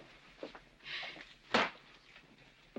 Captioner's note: smack